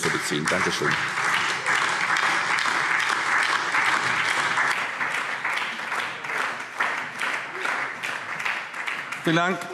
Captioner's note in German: Beifall SPD, DIE LINKE, vereinzelt CDU und BÜNDNIS 90/DIE GRÜNEN